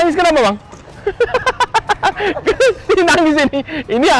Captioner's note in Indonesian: ketawa